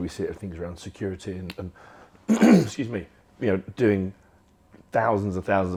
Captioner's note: coughs